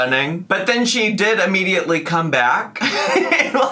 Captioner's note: laughs